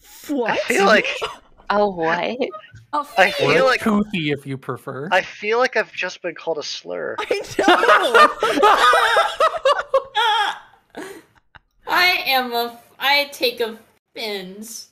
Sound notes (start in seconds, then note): 7.2 laughs